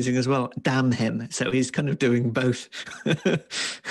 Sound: laughs

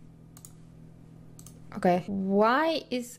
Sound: mouse clicking

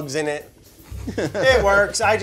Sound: laughing

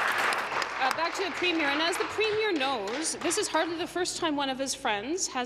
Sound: applause

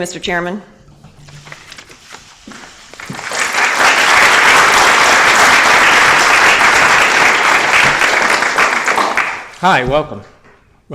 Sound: applause

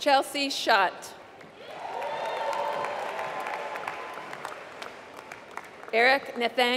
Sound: applause

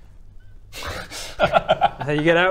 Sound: laughs

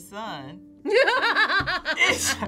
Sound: laughs

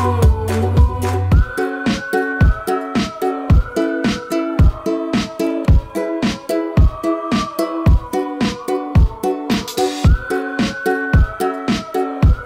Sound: whistling

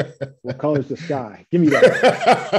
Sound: laughs

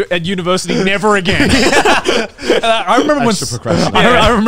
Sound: all laughing

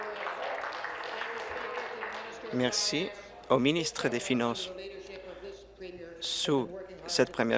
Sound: applause

